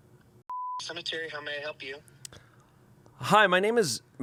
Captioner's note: beep